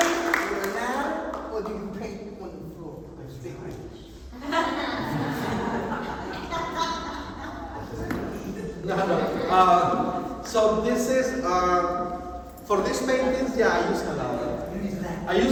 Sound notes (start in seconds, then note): 4.3 laughter